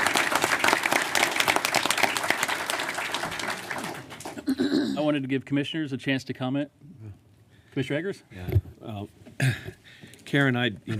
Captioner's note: applause